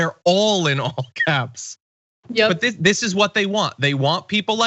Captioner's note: laugh